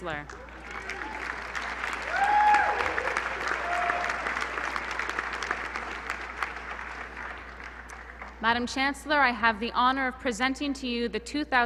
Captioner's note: applause